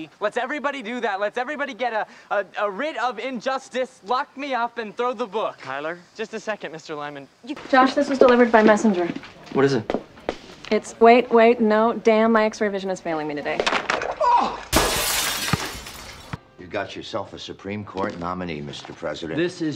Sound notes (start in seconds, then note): 13.8 C.J. grunts; 14.6 glass shatters